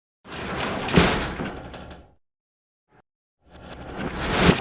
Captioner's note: metal door slams